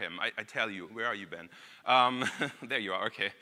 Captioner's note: laughs